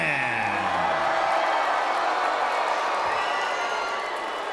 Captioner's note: crowd cheers